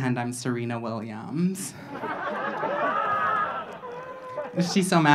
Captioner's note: audience laughing